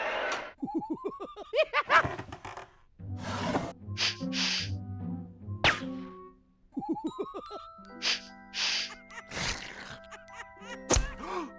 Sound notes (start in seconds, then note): 0.6 chittering laugh; 2.3 creak; 4.0 sniffing